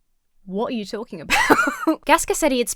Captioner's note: laughs